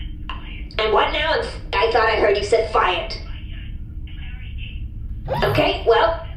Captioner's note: voice on the other line keeps talking